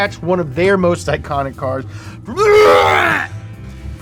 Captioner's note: gags loudly